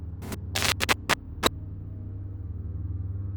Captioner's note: static crackling